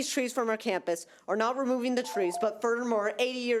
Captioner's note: timer trills